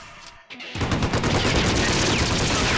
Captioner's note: rapid gunfire